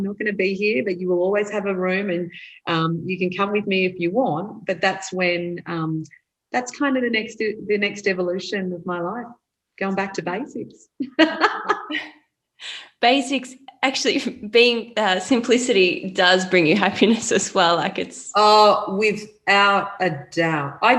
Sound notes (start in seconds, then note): 11.0 laughs